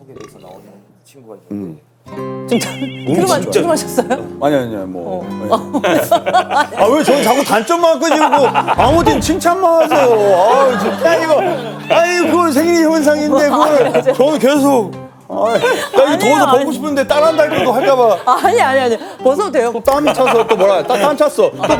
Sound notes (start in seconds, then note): 0.0 burp; 5.5 haha